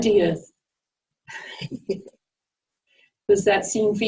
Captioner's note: chuckles